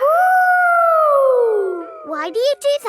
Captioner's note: howling